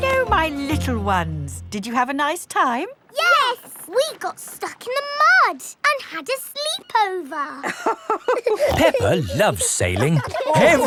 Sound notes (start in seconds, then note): 7.6 both laughing